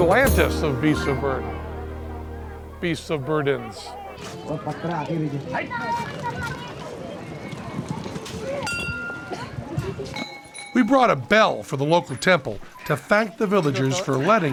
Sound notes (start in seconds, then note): 4.3 chatter; 7.6 bell ringing